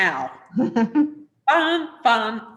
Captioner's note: giggles